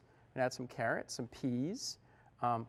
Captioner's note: whispers